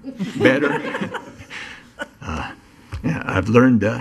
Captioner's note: laughing